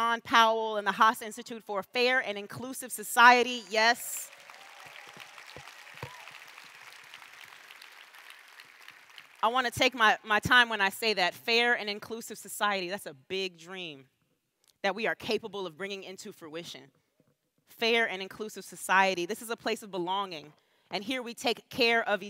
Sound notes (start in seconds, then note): 12.4 applause